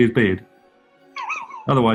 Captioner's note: sniggering